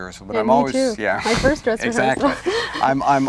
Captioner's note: laughs